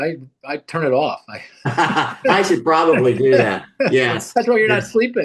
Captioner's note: laughs loudly